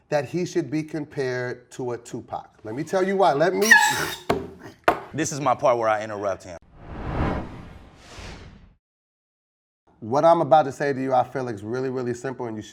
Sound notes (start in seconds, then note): 2.8 air horn squeaks